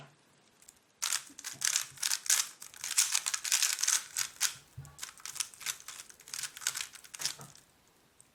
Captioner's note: cube noise